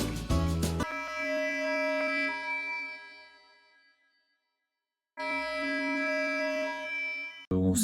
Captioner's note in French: sirene